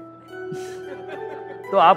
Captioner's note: Chuckles